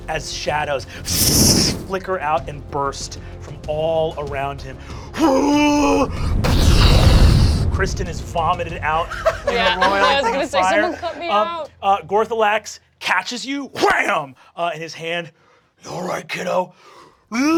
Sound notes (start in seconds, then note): 5.2 groaning; 5.8 fire blasting